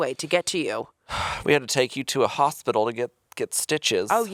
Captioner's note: sighing